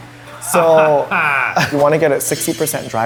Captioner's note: Eugene laughs dryly